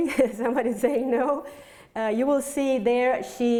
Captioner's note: laughs